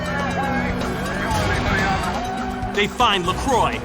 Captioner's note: siren wailing